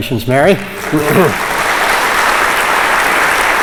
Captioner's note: applause